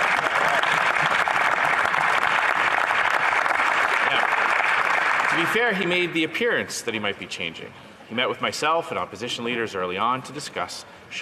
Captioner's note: some Applause